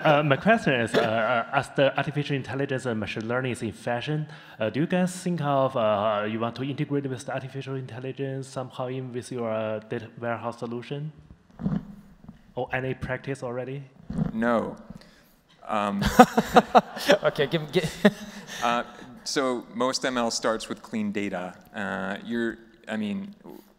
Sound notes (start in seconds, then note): 15.9 laughing